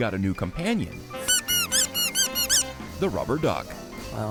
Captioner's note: toy duck squeaking